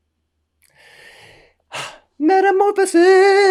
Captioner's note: sighs